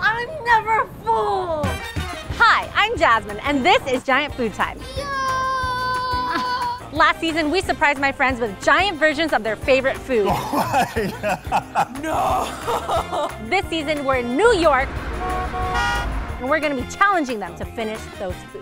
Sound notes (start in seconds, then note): 10.2 laughing; 14.8 car horns honking